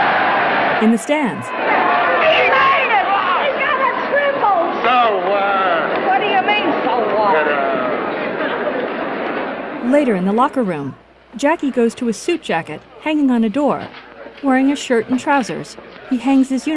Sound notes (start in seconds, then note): 9.0 indistinct chatter